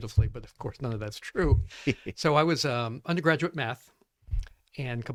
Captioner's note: laughs